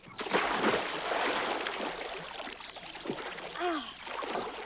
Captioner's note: water splashing